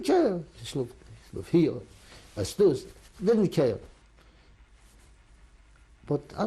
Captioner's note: non-english